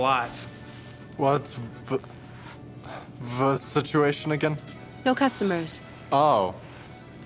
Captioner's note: stuttering